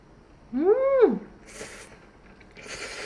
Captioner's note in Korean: 후르릅